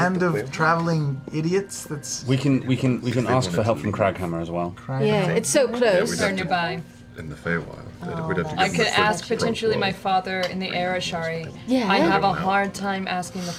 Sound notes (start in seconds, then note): none